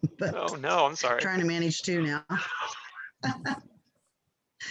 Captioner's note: laughs